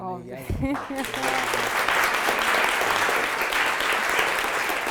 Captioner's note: audience applauding